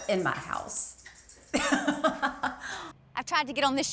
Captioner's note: laughs